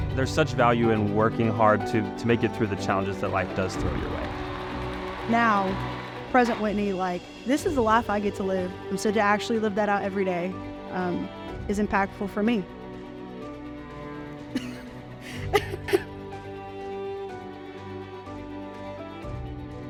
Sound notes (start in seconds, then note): 15.2 chuckles; 16.3 lively music continues